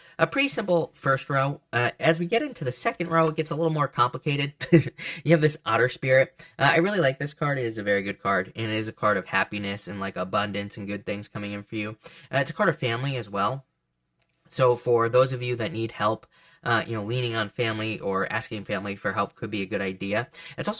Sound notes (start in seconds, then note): 5.0 laughs